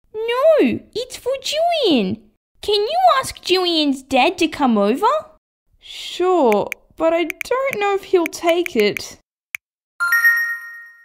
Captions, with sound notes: No, it's for Jillian Can you ask Jillian's Dad to come over? Sure, but I don't know if he'll take it... (Ding!)